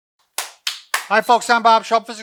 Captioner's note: claps